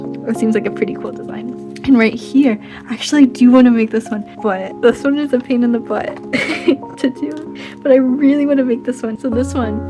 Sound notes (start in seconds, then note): 6.2 chuckles